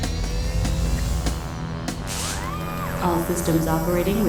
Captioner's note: tense music; robotics whirring